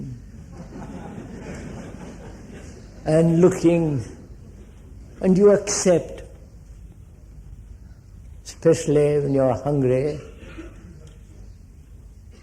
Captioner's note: laughter